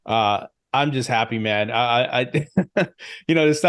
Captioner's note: chuckles